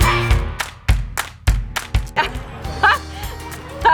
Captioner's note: laughter